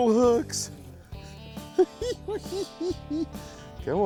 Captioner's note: laughs